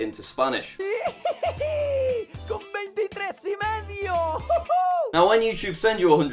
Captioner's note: dub speaking spanish